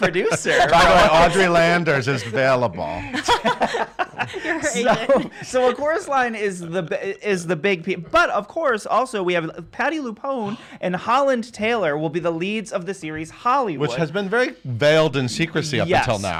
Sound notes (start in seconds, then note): 0.0 laughs; 2.8 laughs